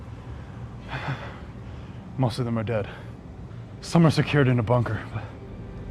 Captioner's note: exhales